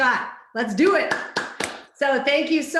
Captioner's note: clapping